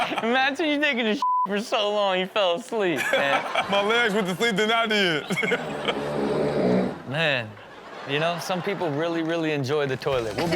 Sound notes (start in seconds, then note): 1.2 beep; 5.9 person snores